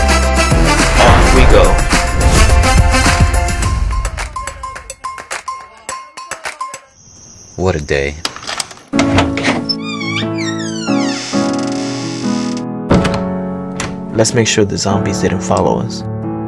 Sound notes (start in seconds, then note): 1.2 whoosh Swoosh; 6.9 crickets; 8.3 door Opens; 12.8 door Closes